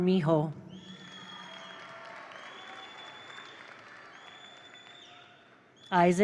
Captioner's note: attendees cheer; attendees applaud